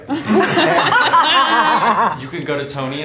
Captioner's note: laughs